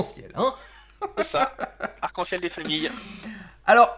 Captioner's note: and laught, again